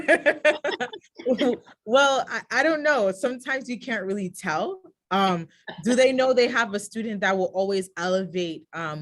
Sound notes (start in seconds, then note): 0.0 laughs